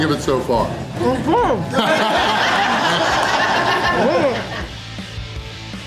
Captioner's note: crowd laughter